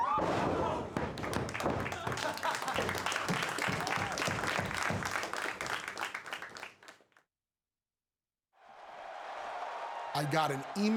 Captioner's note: laugh; applause